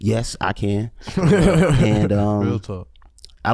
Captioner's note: laughs